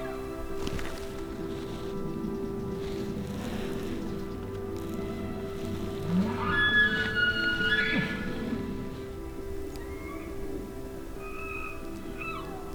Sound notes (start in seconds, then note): 6.1 caller bugling; 9.4 elk bugling